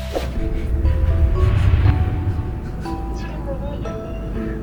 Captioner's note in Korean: 킁x6